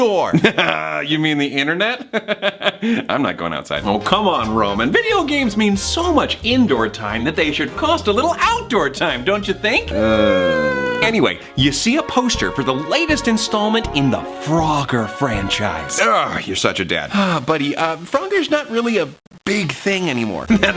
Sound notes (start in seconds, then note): 2.2 laughing; 9.8 groaning